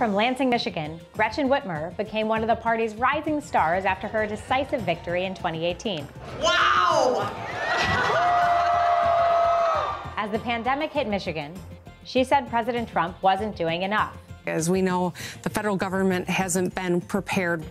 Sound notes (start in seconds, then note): 6.4 crowd cheering; 7.2 laughs